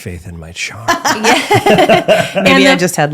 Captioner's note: laughing